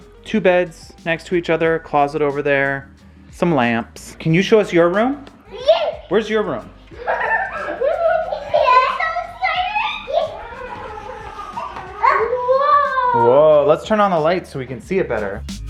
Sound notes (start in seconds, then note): 9.5 children excitedly cheering